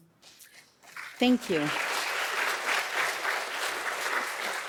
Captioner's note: audience applauding